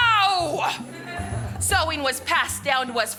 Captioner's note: audience laughs